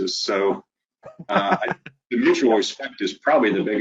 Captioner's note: laughing